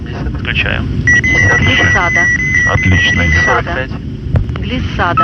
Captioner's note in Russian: звук отключения автопилота